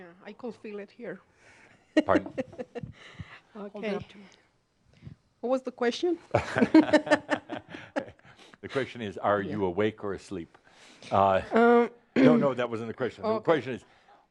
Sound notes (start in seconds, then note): 1.9 she chuckles; 6.4 they chuckle